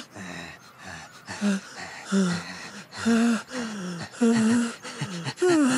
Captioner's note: listening to breathing